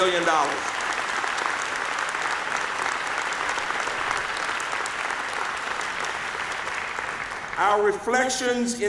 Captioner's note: applause